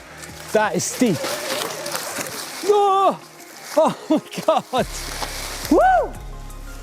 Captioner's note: screams; yells